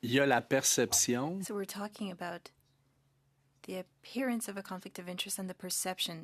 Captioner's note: speaking French